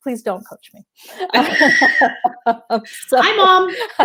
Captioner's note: laughing